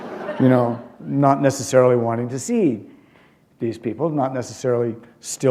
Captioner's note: laughter